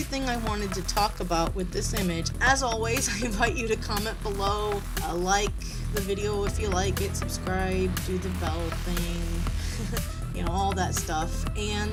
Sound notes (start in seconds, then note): 9.6 laughs awkwardly